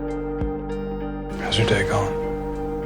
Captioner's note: voiceover